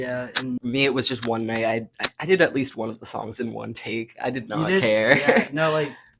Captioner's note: laughs